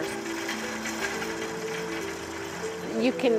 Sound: whirligigs rattling

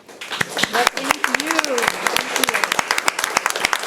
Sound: people clapping

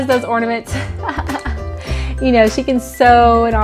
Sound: laughs

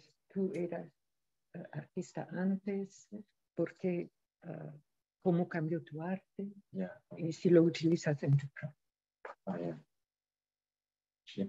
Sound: speaking in spanish

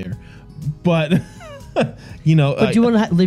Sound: laughing

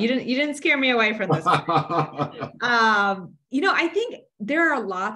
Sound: laughs

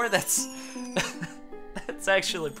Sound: laughs

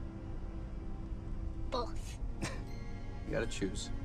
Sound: chuckles

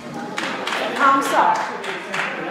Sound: applause

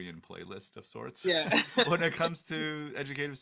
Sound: laughs

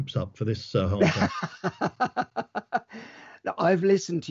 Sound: laughs

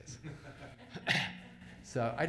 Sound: laughter

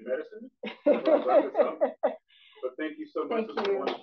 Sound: laughter

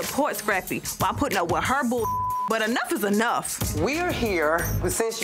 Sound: beep

